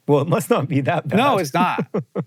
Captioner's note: laughing